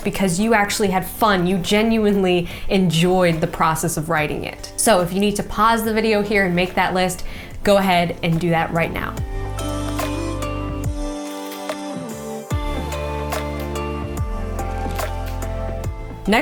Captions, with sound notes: because you actually had fun. You genuinely enjoyed the process of writing it. So if you need to pause the video here and make that list, go ahead and do that right now. (vocalist humming) (upbeat pop music)